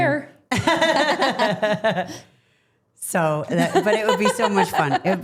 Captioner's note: Steph laughing